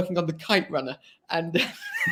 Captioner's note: laughs